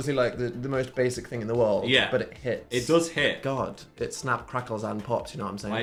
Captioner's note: none